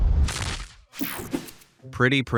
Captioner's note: sparse suspenseful music; Glass Joe thuds